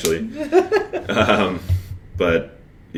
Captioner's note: laughs